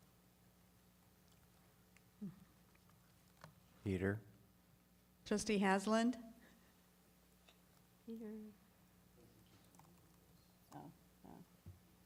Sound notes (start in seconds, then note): none